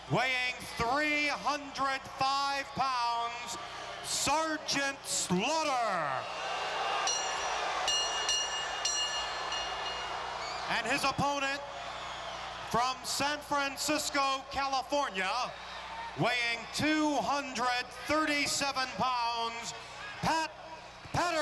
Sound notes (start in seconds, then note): 7.0 bell dings; 7.1 crowd boos